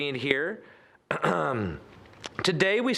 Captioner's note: clearing throat